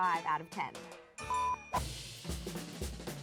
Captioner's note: upbeat music; beep